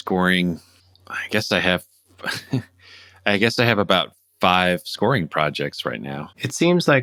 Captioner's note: laughter